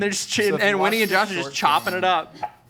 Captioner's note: knife scraping